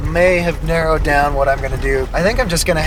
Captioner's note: laugh